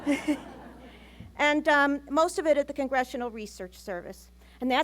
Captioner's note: laughter